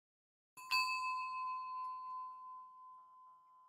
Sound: bells chiming

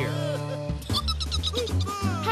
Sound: giggles

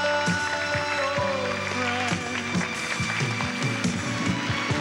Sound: audience claps

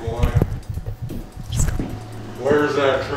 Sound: whispers

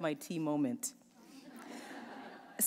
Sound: laughter

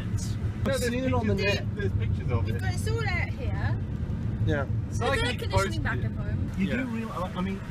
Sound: all arguing

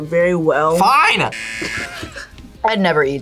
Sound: buzzer; laughs

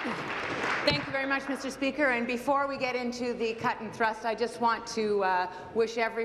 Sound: applause

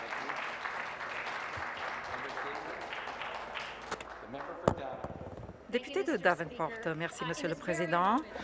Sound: speaking Alternate Language; applause

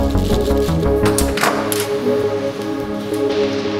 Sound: door opens

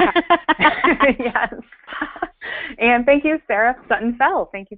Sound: voiceover

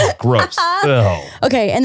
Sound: laughing

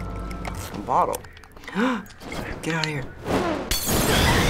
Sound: gasps; Molotov explodes, Clicker shrieks

